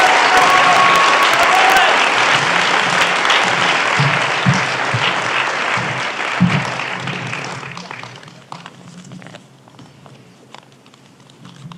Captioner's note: applause